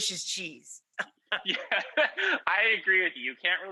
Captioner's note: laughs